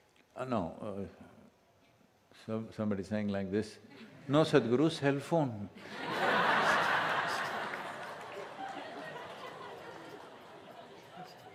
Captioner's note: laughter/Applause